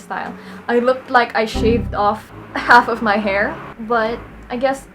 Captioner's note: Windows error SFX